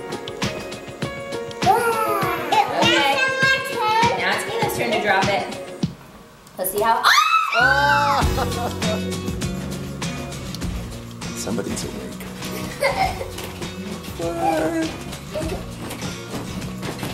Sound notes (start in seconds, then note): 0.0 bright instrumental music; 7.8 laughs; 8.6 bright guitar music; 12.5 laughing